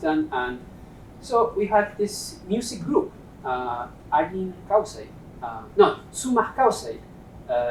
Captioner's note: non-english speech